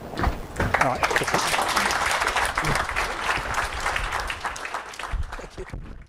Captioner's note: applauding